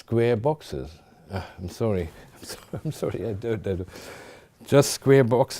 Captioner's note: chuckling